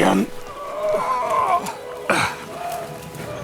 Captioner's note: groaning